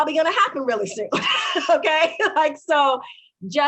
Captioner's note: laughing